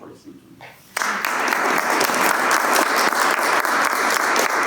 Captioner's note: applause